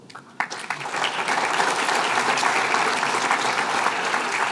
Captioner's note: applause